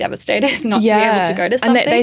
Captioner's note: laughing